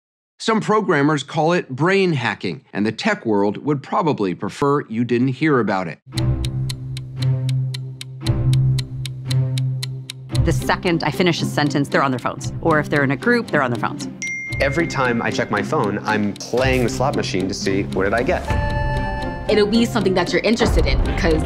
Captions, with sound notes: -Some programmers call it "brain hacking," and the tech world would probably prefer you didn't hear about it. [clock ticking, suspenseful music] -The second I finish a sentence, they're on their phones. Or if they're in a group, they're on their phones. [ding] -Every time I check my phone, I'm playing the slot machine to see what did I get? -It'll be something that you're interested in 'cause